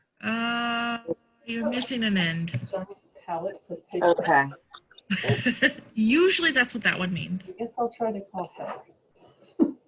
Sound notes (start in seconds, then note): 4.6 laughs